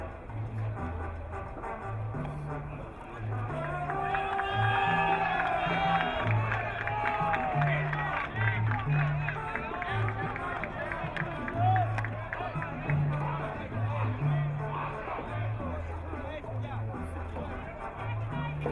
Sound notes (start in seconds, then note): 4.4 crowd cheering; 10.4 Latin music